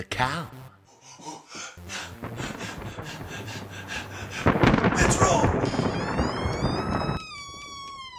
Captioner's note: out of breath